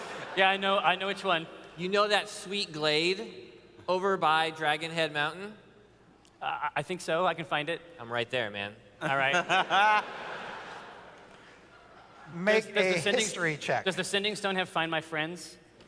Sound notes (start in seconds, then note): 9.0 laughs